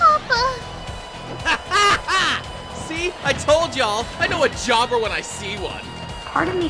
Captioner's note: laughs